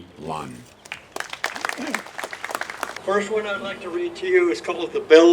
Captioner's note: applause